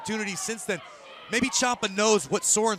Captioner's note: none